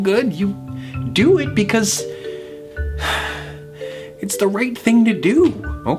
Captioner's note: sighs